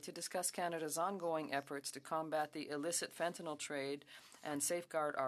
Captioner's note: speaking French